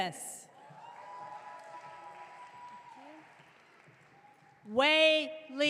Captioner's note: audience clapping